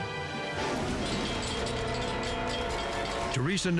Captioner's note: horn wails; bell rings